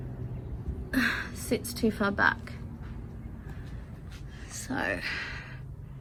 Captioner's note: sighs